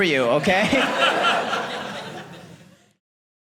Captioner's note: audience laughing